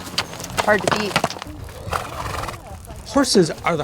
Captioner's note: horse neighing